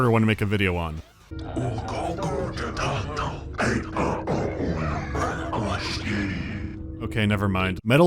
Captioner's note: low-pitched whispering gibberish